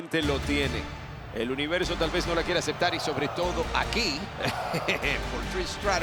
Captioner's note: laugh